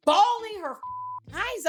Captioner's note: beep